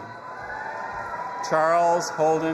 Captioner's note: audience applauding and cheering